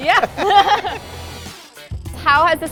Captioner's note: laughing